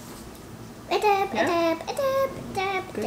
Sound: vocalizing

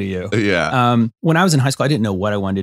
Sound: laughs

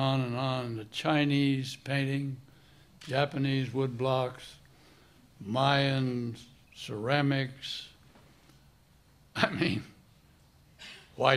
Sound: chuckle

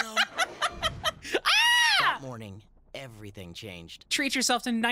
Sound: laughing; screams

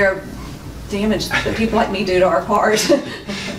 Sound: laughs

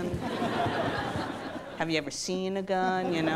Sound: audience laughs

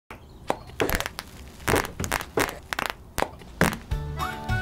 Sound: bubble wrap popping sounds

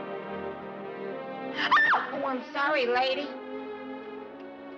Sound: shrieks

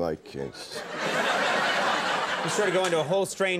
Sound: audience laughing

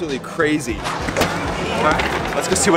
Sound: whipping

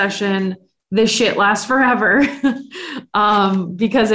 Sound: laughs

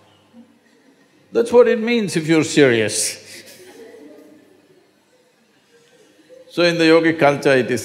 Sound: few laugh

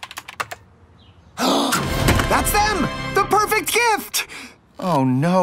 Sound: gasps

